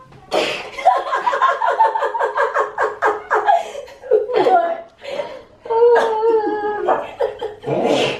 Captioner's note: laughter